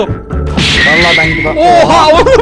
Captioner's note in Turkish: süper vuruş efekti̇